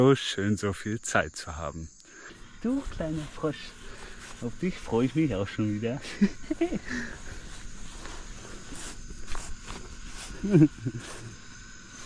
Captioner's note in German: gelächter